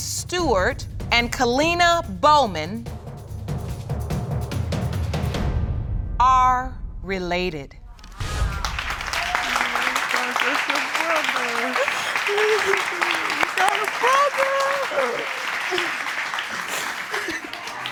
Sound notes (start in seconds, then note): 7.2 audience applauding; 11.2 sobbing